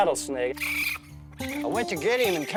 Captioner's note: screeches